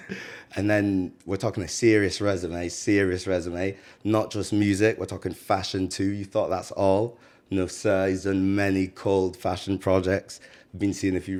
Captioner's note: laughs